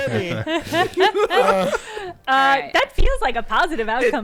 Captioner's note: everyone laughing